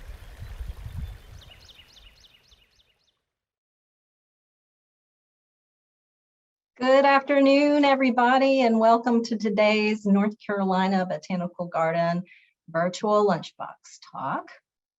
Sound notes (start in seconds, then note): 0.1 bird chirping